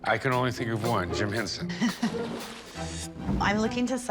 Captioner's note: laughs